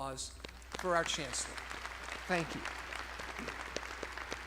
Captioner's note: all applauding